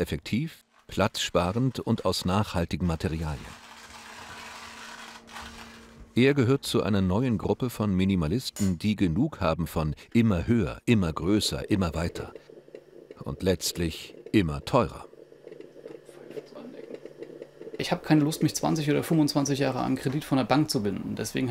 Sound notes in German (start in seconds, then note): 15.4 flüstert